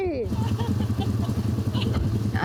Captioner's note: laughs